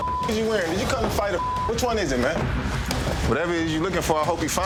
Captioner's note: beep